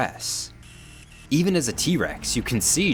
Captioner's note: eye whirring